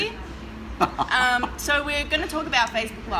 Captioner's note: laughing